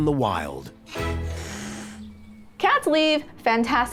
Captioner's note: hissing